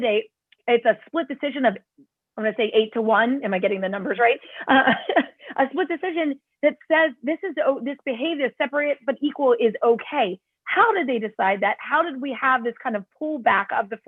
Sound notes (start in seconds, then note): 4.7 laughter